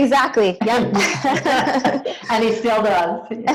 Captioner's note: laughs